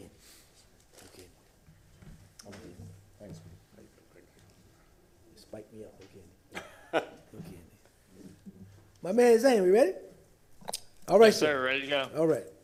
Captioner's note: laughter